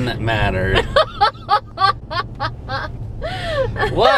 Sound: laughing

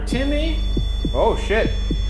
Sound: REM-Pod beeping

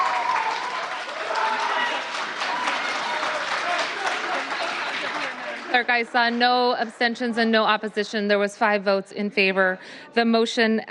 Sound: applause

